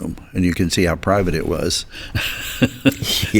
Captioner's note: chuckles